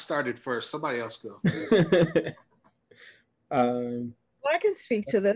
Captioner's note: laughs